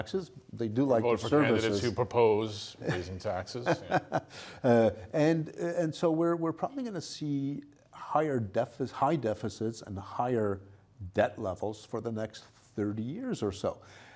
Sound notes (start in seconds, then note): 3.5 laughs